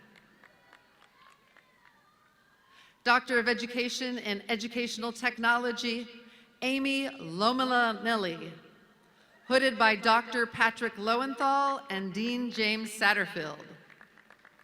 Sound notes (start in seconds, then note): 0.1 audience clapping